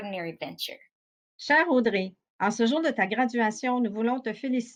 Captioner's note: non-english speech